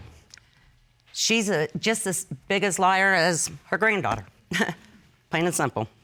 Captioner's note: chuckles